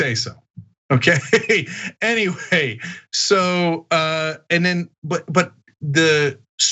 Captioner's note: laugh